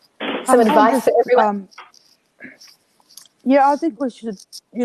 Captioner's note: talking in unison